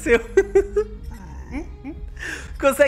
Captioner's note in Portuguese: risos